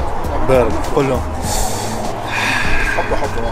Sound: sighs

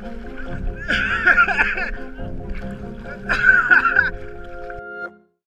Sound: laughter

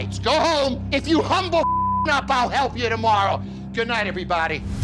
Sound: beep

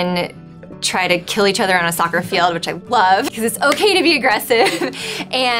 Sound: laughs

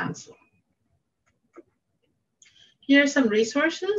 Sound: mouse clicking

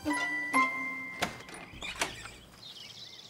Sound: birds chirping

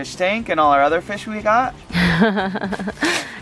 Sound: laughing

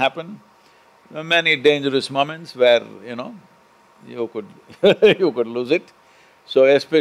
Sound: laughs

